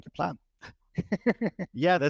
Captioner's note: laughing